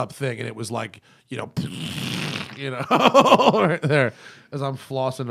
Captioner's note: laughter